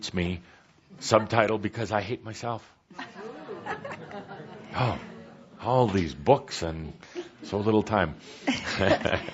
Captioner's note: laughter